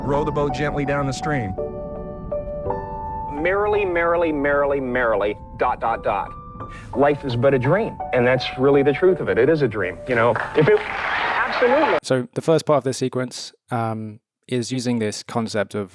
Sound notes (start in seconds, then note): 1.9 tinkling music; 10.2 audience applauding